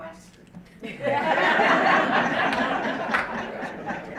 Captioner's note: audience laughing